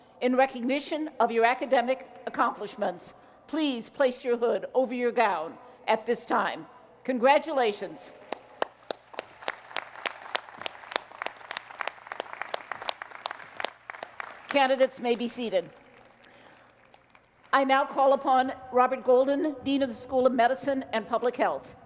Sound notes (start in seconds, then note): 8.2 applause